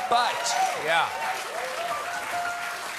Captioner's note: applause